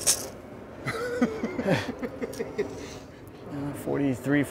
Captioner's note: laughing